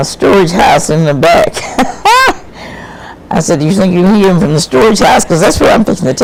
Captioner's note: laughs